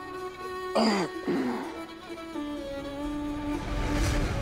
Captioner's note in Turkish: Adam İnliyor